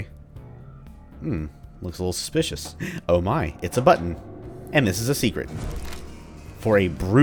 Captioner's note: le gasp